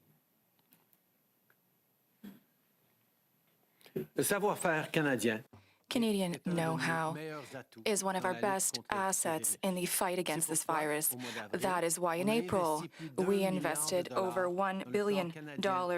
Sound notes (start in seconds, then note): 10.1 speaking French